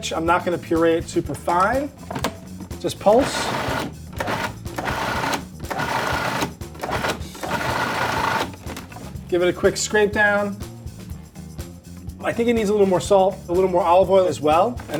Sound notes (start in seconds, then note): 4.1 food processor whirring